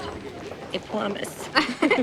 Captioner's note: laughing